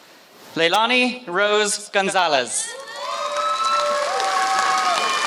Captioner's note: applause